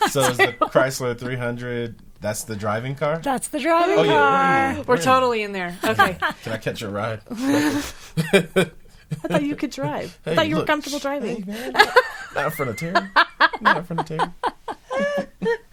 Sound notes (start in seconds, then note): 7.3 laughing